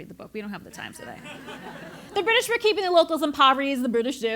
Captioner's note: laugh